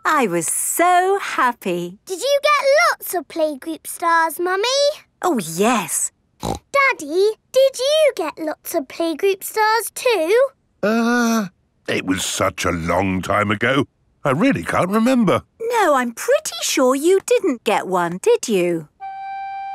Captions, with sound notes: I was so happy. Did you get lots of playgroup stars, Mummy? Oh, yes! (SNORTS) Daddy, did you get lots of playgroup stars too? Uh... It was such a long time ago... I really can't remember. No I'm pretty sure you didn't get one, did you?